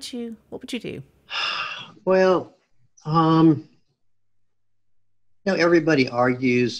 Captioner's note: sighs